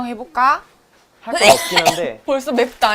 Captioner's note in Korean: 콜록